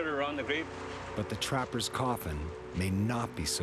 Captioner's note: voiceover